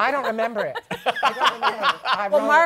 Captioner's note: laughter